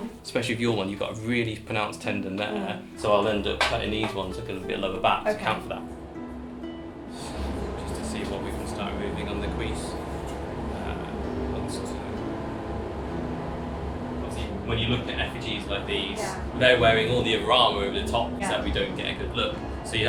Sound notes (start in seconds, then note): 11.7 speaking faintly